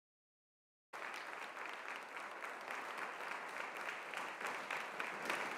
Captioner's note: audience applauding